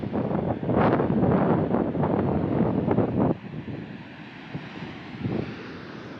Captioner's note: wind blowing